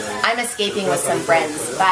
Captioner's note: none